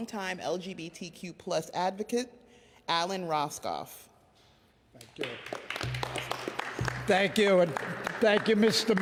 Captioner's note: applause